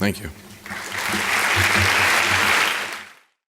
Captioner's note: applause